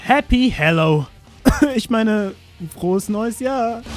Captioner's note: cough